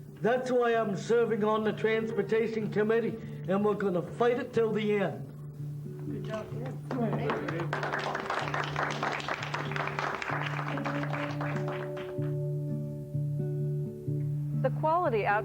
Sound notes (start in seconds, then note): 6.1 applause